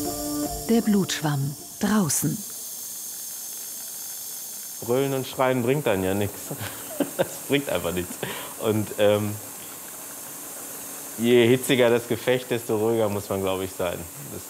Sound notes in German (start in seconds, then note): 4.8 lachend